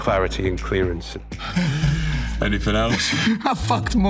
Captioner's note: laughing; chuckling